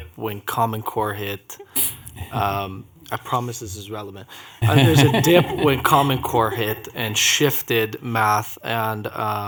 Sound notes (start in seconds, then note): 6.4 laughter